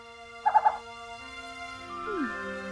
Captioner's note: mysterious music; owl vocalizes; Princess Oren sighs